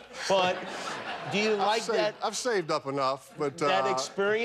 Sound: laughter

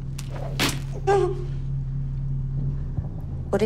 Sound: whimpers

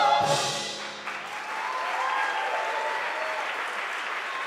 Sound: applause

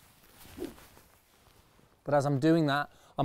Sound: club whooshes

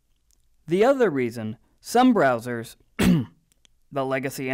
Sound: cough

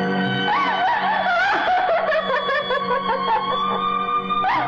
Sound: crying

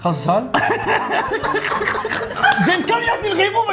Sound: hysteric laughing

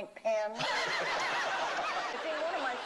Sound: laughter

